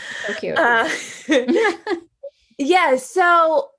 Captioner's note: laugh